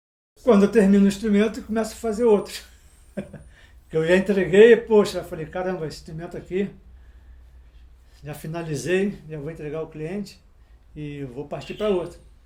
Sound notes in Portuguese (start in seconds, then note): 2.6 risos